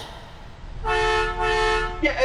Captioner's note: truck horn